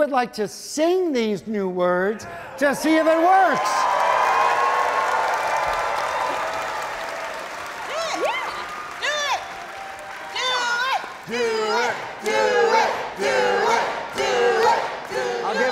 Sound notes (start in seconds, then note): 2.6 audience cheering; 10.5 crowd